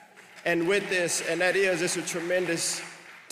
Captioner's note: applause